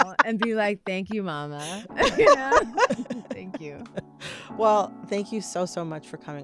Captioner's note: laughter